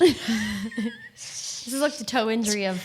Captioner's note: both laughing